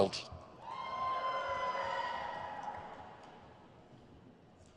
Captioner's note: crowd cheers